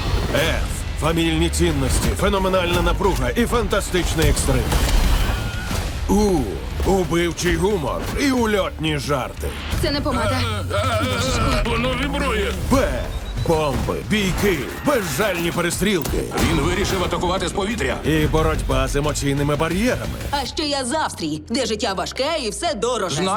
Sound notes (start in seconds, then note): 5.2 screaming